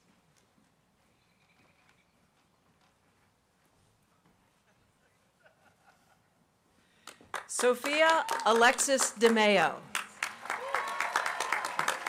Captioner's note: applause